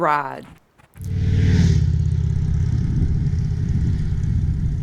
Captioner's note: motorcycle rumbling